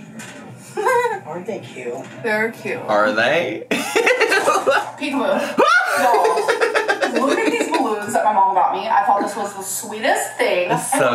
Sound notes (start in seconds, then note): 3.7 laughs